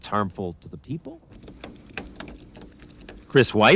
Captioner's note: computer keys clacking